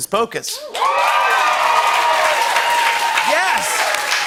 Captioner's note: cheers and applause